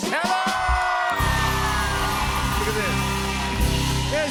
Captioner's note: cheers and applause